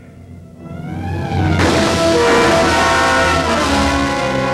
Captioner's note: gun shot